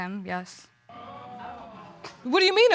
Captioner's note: audience exclaims